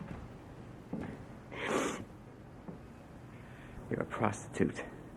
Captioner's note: Pat sniffs